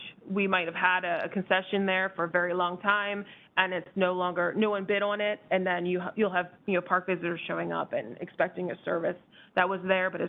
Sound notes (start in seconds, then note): none